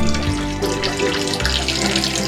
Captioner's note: peeing sounds